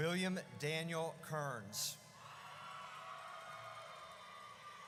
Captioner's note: audience cheers